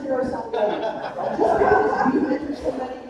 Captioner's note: laughing drowning out speaker